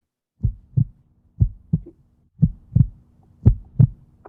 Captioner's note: thumping